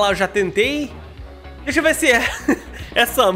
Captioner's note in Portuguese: risos